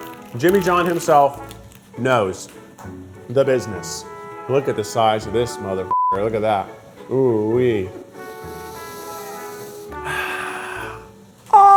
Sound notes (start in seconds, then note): 5.9 beep; 8.4 inhaling; 10.0 sighing